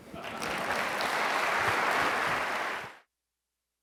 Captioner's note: applause